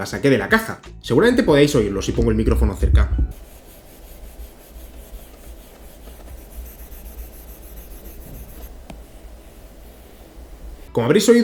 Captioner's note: sound of pencil writing